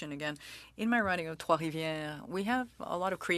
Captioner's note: speaking french